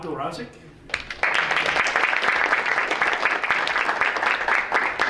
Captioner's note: audience applauding